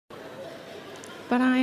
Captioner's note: audience murmur